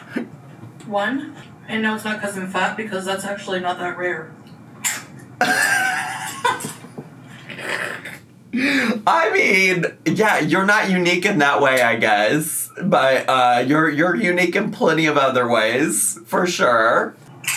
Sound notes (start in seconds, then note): 5.4 laughs